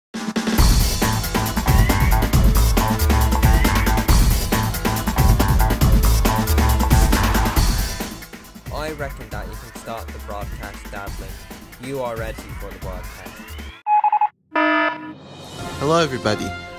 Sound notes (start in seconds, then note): 14.5 morse code; 14.5 alarm